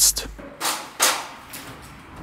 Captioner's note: loud clicking